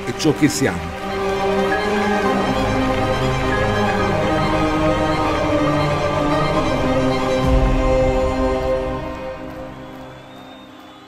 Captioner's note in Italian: Applauso